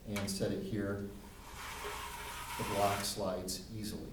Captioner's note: block sliding